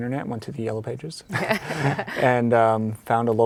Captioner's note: laughs